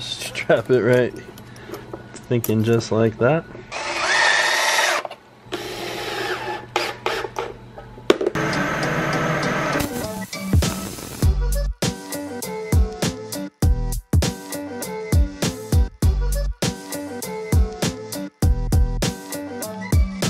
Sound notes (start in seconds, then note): 3.7 drilling; 8.5 upbeat music